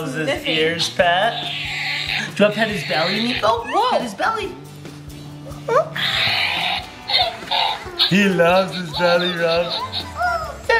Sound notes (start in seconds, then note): 0.0 balloon sounds; 1.3 balloon sounds; 6.4 balloon sounds